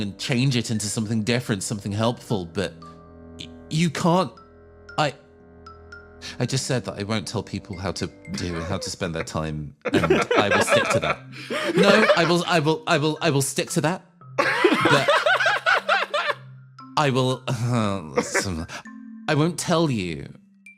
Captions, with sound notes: change it into something different, something helpful, but You can't I- I just said that I won't tell people how to- how to spend their time and I will stick to that No! I will-I will-I will stick to that But [Laughs] I will... [Grumbles] I won't tell you